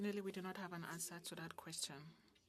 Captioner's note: speaking French